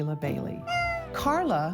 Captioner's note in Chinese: 貓咪喵喵叫